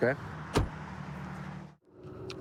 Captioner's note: door bangs